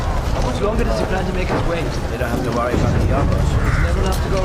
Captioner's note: all chattering